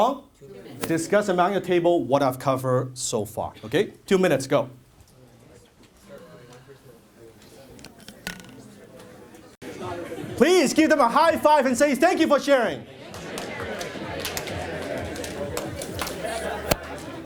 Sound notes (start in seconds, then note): 6.0 audience begins discussion